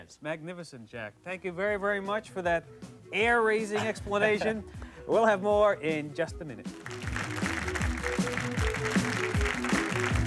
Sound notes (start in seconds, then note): 6.7 audience claps